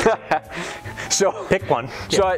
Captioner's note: laughs